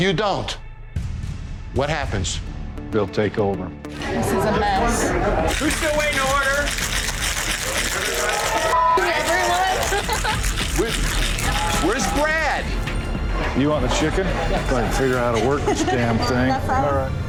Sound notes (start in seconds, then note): 7.7 crowd cheering